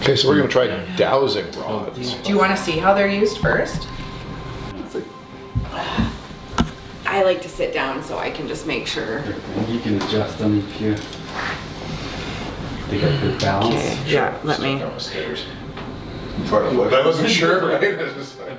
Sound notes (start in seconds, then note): 5.0 groans; 5.0 mumbles